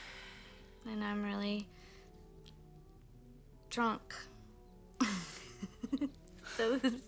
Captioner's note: laughs